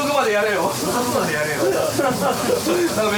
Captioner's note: laughs; laughter